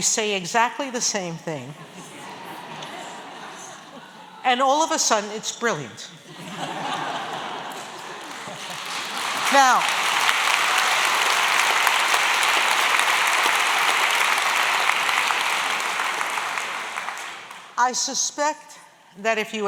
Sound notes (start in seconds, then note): 6.2 laughter; 10.0 applause